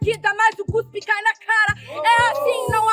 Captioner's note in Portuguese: plateia faz barulho